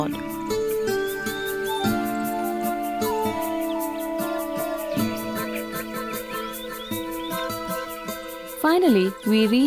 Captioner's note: birds chirpping; soft gentle music